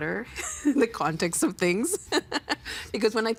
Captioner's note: laughing